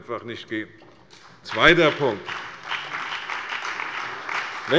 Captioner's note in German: Beifall bei der CDU